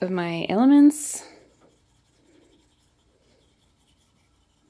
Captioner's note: pencil scratching